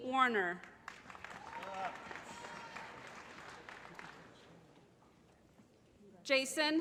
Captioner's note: applause